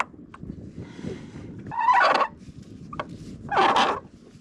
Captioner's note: squeaking